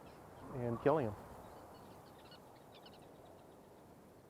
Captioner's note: birds chirping